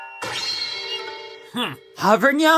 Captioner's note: Hovernyan scoffs